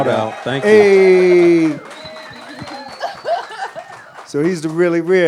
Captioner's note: audience cheers